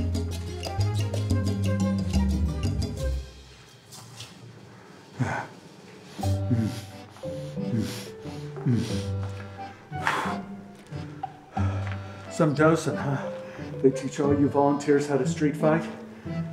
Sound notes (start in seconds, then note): 6.2 panting and grunting